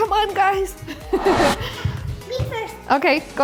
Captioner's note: swoosh